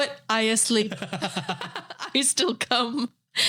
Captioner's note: both laughing